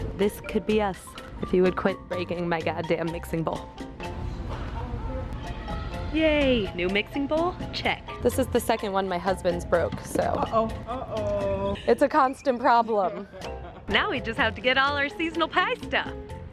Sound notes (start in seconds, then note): 13.1 cashier laughs